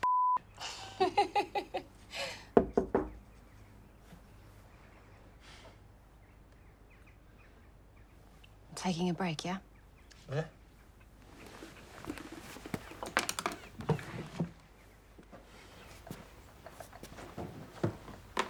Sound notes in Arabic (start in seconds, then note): 0.6 آنا تضحك; 2.6 يطرق الباب